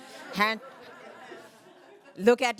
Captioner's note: laughter